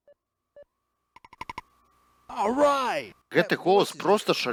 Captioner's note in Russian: алічбаваны голас